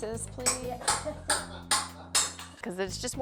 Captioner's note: laughs